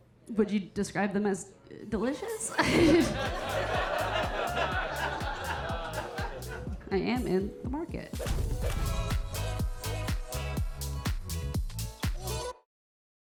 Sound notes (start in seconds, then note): 2.4 audience laughing; 8.7 upbeat music